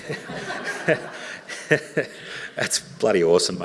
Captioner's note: audience laughing